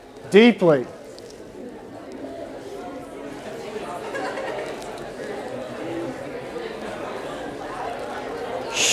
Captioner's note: chatter